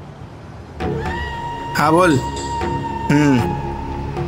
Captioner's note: Speaking on phone